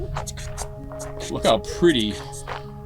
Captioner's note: beatboxing